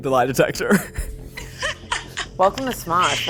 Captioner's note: laughs